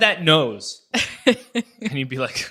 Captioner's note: laughs